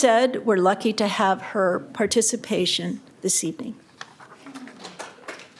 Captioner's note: applause